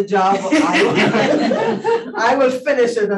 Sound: panelists laughing

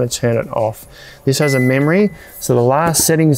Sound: fridge beeps

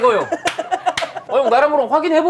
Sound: laughing

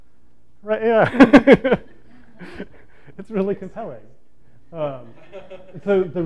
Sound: laughs

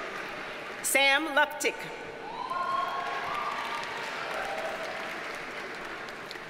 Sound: audience cheers and applauds

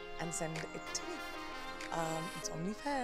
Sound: none

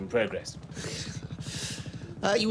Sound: hiss

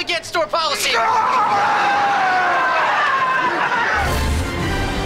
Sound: screaming

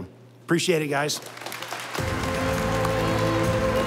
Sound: audience applauding; stately music

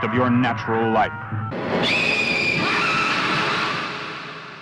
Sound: theatrical screaming

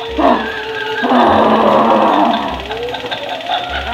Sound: growling

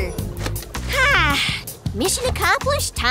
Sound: sighing

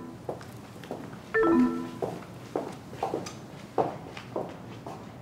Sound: low electronic beep

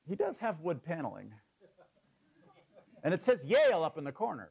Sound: laugh

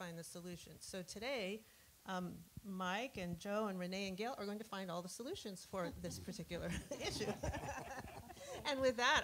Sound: laughter

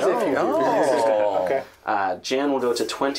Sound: collective amusement

